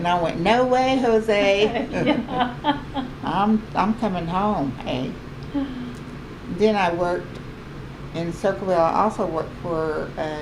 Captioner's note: laughs; laughter